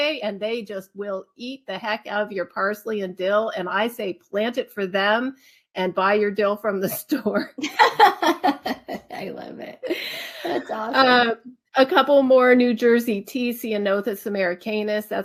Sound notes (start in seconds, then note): 7.6 laughs